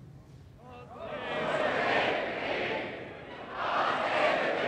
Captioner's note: crowd